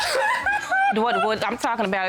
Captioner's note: crying